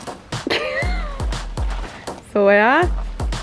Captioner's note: laughter